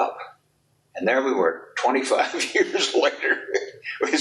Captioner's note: chuckles